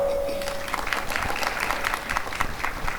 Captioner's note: applause and cheering